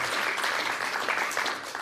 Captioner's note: applause